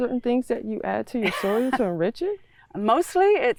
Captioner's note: laughs